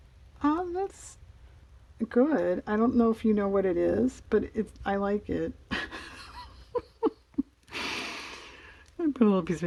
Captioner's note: laughs